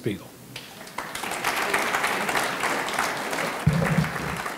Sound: audience clapping

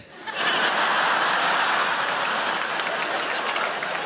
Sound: audience laughing

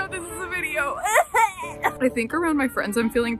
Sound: gags

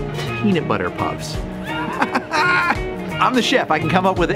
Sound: laughs

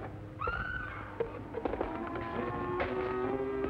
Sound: scream

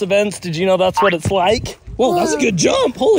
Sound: jump boings

